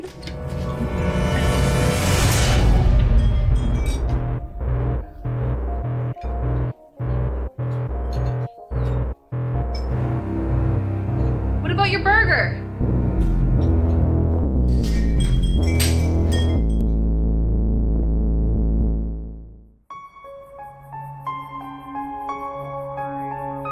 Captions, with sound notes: (ominous instrumental music) - What about your burger? (bells chiming) (ominous instrumental music)